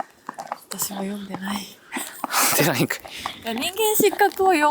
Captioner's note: laughs